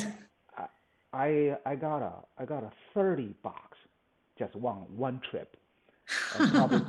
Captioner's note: laughs